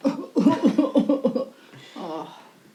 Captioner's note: Natalie fake coughing